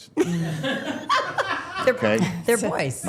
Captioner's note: all laughing